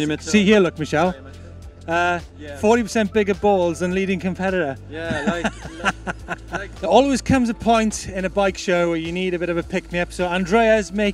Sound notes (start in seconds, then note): 5.0 laughs